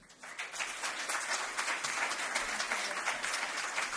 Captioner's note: applause